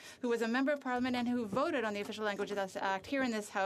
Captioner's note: speaking French